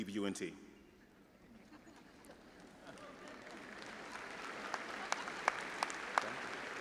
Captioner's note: audience chattering and applauding